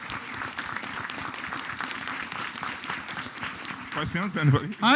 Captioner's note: applause